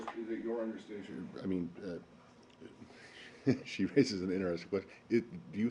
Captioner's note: laughter